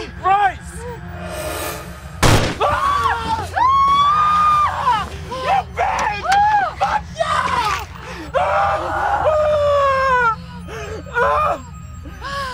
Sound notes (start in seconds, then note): 2.2 gunshot; 2.7 screaming